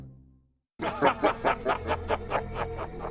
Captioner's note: maniacal laughing